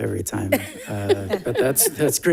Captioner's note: laughs